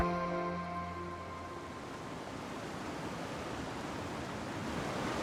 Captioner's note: water rushing